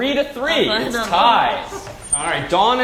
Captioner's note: laugh